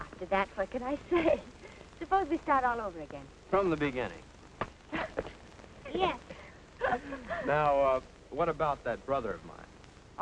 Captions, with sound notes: After that, what can I say? [chuckles] Suppose we start all over again. From the beginning. Yes. [chuckles] Now, what about that brother of mine?